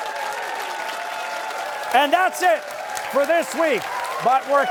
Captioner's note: cheers and applause